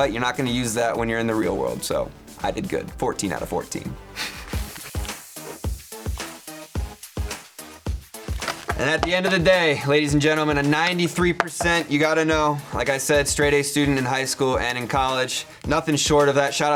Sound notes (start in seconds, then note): 4.1 laughs